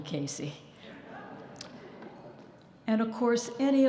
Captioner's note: audience chuckling